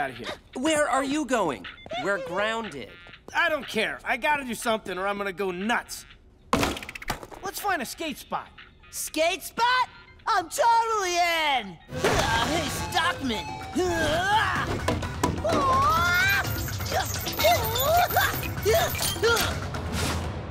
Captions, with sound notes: Where are you going? We're grounded. I don't care. I got to do something or I'm going to go nuts. Let's find a skate spot. Skate spot?! I'm totally in! [buzzing, chiming] Hey, Stockman. [grunting]